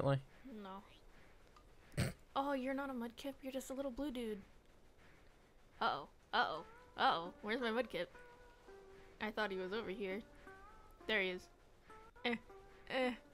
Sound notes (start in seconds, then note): 1.9 snorts